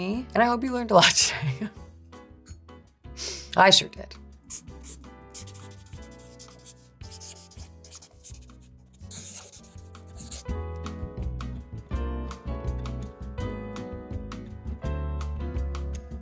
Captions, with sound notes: and I hope you learned a lot today. [person laughing] I sure did. [pen whirring] [upbeat music]